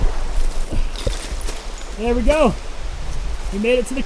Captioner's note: water splashes